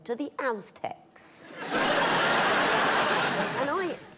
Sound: laughter

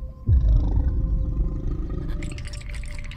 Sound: deep growling; rattling

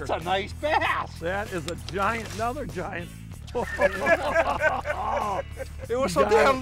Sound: laughing

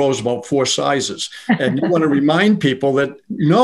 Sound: laughing

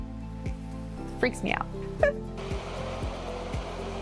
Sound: chuckles

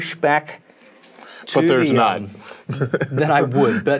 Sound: laughs

